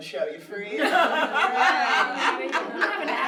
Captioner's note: laughter